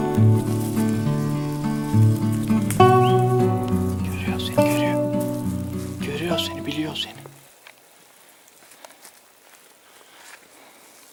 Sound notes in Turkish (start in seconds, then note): 2.1 ıslık çalıyor